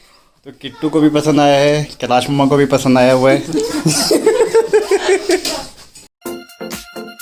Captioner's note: laughs